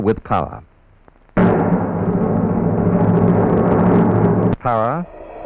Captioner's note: sound of machinery